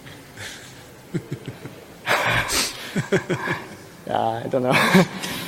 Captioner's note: laughs